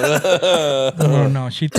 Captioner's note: laughing